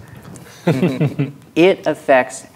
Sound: players laughing

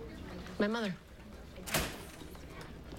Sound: door opens

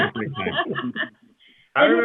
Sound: laughter

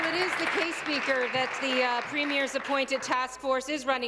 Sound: applause

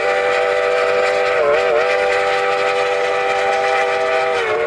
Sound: whistle blowing

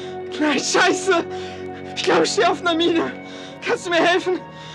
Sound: German

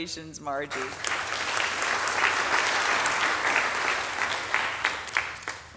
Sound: audience applauding

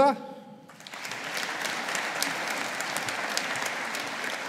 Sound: audience applauding

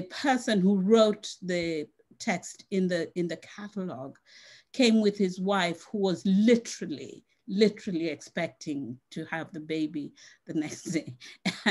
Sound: laughs

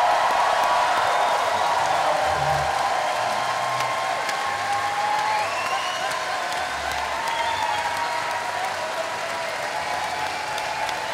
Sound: cheering

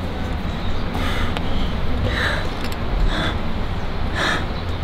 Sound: panting

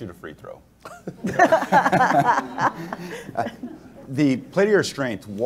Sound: everyone laughs

